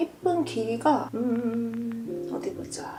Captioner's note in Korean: 으으으음